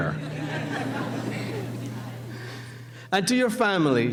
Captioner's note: laughing